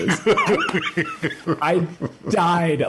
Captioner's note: Tyler laughs